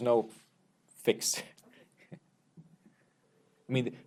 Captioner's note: laughs